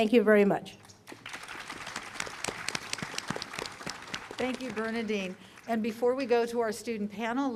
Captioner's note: applause